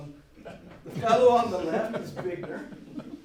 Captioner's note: audience laughs